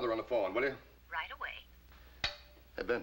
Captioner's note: voiceover